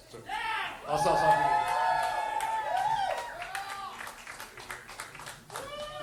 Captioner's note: audience cheering